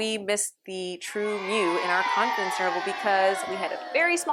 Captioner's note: applause